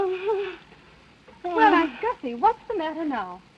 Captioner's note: sighing